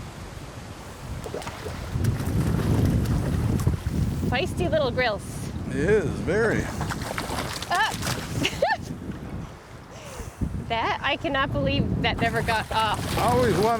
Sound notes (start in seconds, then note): 5.8 water splashing; 8.4 laughing